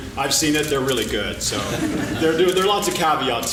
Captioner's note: laughing